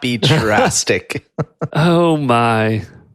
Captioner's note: laughs